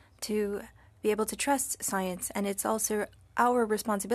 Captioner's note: speaking French